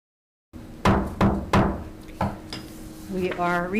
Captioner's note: gavel banging